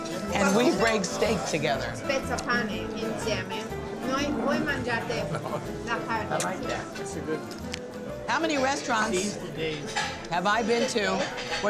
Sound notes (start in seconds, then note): 2.2 speaking Italian